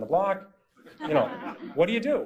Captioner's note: laughter